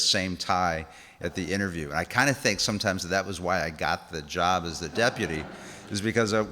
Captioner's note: laughs